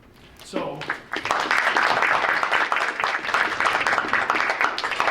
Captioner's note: audience applauding